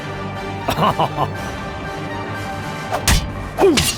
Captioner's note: laughs in even more French